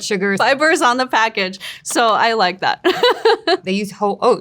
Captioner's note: laughs